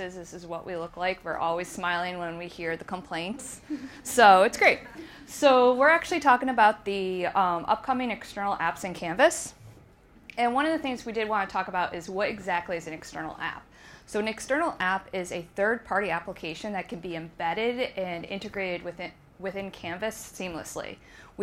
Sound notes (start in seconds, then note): 3.6 audience chuckling